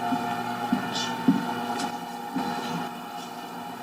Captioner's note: machine blaring